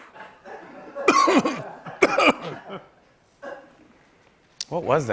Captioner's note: coughing